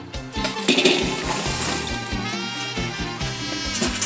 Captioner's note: grill rattles